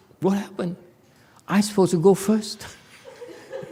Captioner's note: laughs